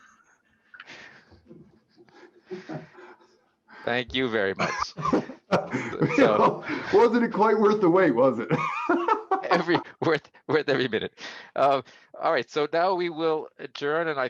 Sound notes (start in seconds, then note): 0.1 laughter; 8.5 laughs